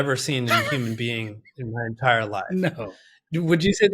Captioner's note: laughs